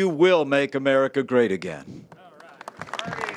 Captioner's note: applause